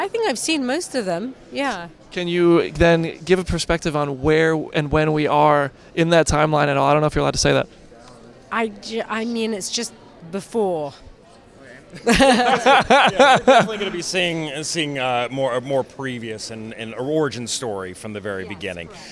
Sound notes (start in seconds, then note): 12.0 laughs